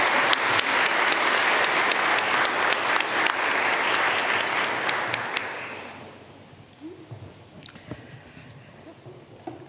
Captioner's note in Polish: oklaski